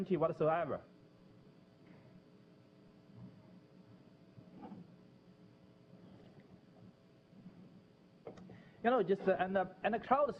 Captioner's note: pause